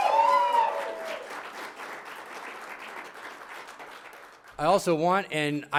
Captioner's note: applause